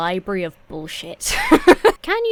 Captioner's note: laughs